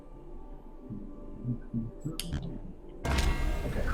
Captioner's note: humming